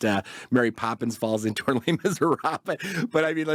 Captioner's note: laughs